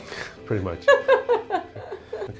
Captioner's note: laughs